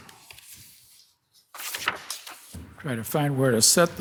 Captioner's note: paper shuffling